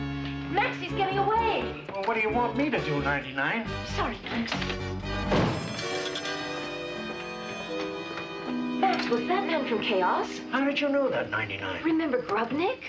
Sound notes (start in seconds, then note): 4.7 tense music; 5.5 clock chimes